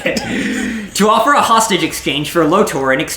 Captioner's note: laugh